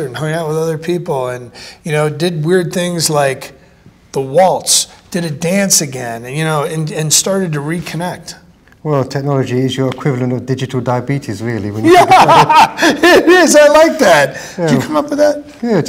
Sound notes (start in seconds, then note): 11.8 both laughing